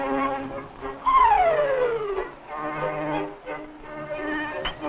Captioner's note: hay whirs